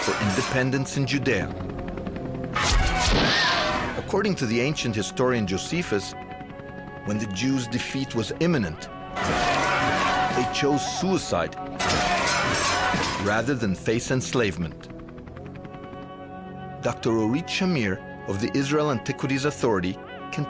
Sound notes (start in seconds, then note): 2.8 crashing; 2.8 yelling; 8.9 yelling; 9.2 metal crashing; 11.8 metal crashing; 12.0 yelling